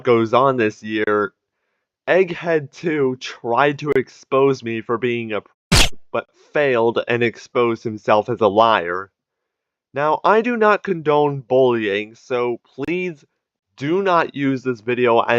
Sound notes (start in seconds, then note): 5.7 silenced gunfire